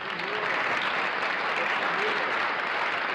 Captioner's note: applause